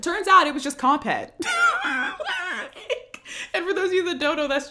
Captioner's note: laughs